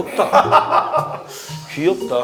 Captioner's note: hahaha